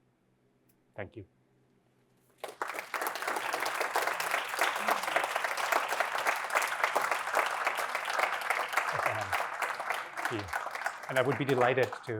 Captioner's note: applause